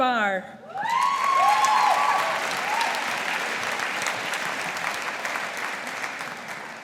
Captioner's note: audience applauding